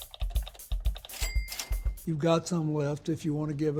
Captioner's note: clicking and dinging